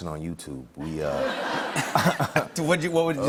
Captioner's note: laughter